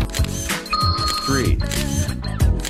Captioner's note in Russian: дзынь